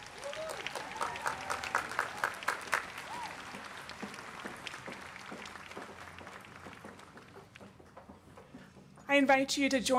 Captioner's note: applause